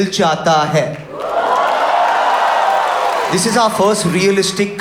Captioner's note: audience cheers